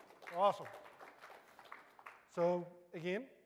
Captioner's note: applause